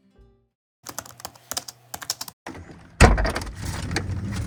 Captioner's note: keyboard tapping; door clattering